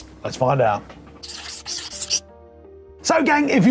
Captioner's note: scribble sound